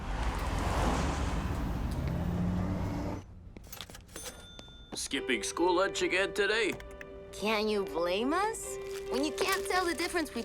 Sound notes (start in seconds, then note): 0.0 street noises; 3.8 cash register bell